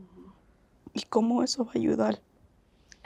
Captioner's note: Spanish